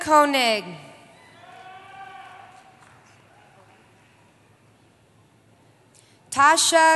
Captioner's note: cheering